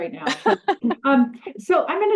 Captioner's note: laughs